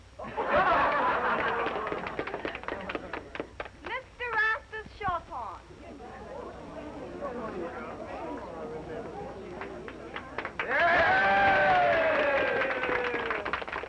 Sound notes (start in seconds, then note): 0.2 all laughing; 5.8 all chattering; 10.3 crowd cheering